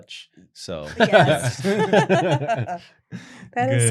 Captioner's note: laughter